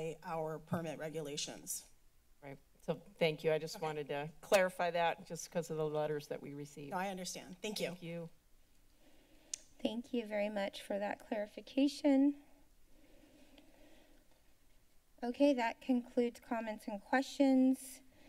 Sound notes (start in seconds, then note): 8.7 silence; 12.4 silence; 18.0 inhales